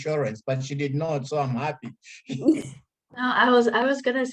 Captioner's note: laughs